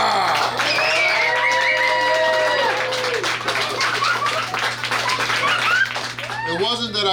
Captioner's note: clapping & Cheering